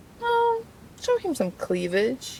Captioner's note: none